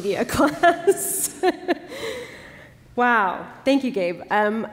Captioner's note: laughter